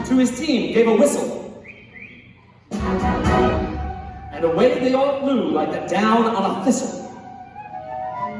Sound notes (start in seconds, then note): 1.5 whistling